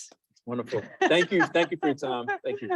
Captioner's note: laughs